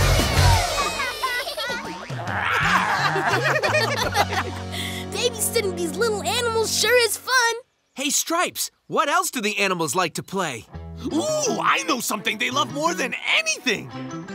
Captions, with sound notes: [laughing] [laughing] Babysitting these little animals sure is fun. Hey Stripes, what else do the animals like to play? Ooh, I know something they love more than anything.